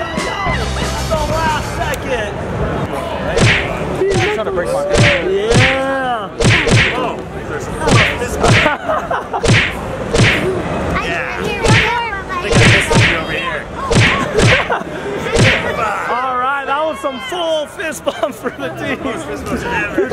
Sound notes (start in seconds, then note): 3.3 fists banging; 3.3 people chattering